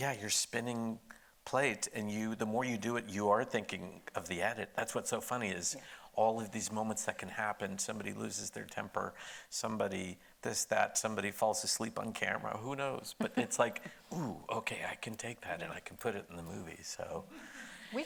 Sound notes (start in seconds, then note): 13.2 laughing